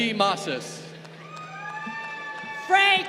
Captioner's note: crowd cheering